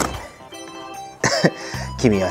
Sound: laughs

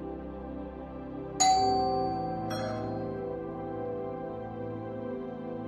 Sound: doorbell

